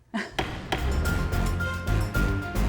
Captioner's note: gavel knocks; lively music